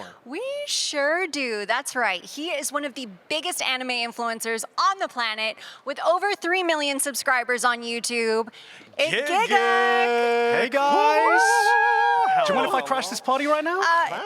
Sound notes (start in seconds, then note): none